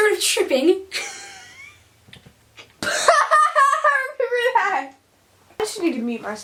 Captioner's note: laughs at self